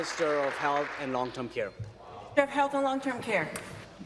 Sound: applause

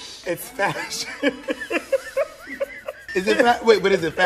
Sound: laughter

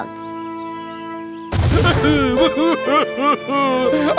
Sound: crying

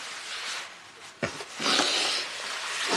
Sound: Aaron sniffles

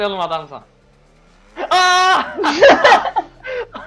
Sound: laughs

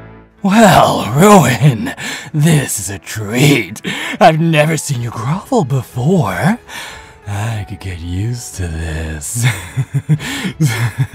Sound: laughs

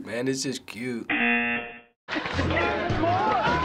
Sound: buzzer; audience laughing and applauding

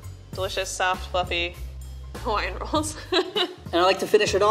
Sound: laughs

